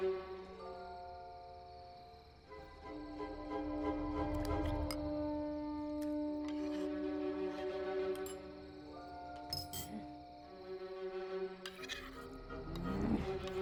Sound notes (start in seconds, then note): 9.4 spoon clinking